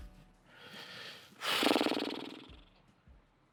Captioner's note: deep sigh